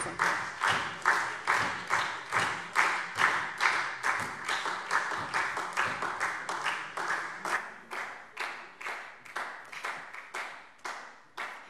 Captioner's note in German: Anhaltender Beifall SPD - Beifall Freie Demokraten